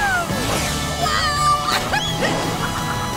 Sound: laughing

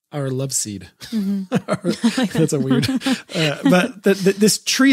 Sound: both laughing

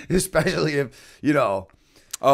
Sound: laughter

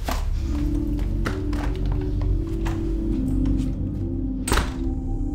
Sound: door clattering

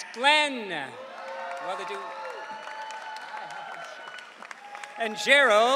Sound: audience cheering

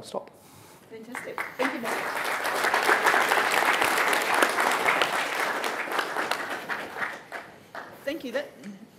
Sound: applause

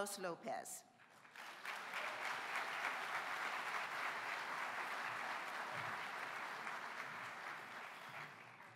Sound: applause

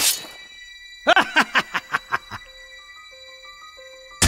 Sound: maniacal laughter

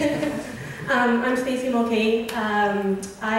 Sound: voiceover

